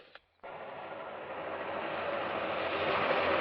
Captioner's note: train engine near